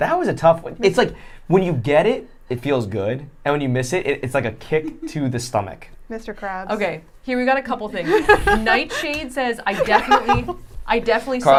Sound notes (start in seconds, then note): 8.0 laughing